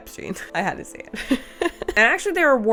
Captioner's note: laughs